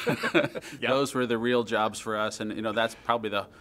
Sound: chuckling

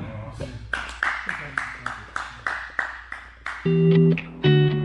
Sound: spectators applaud; gentle music

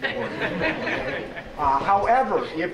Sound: audience laughing

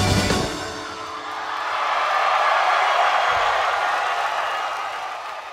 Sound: audience cheers

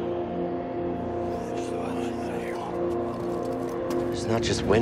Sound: همسات مخلوقات فضائية

